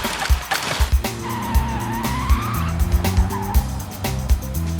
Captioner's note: cheering; screeching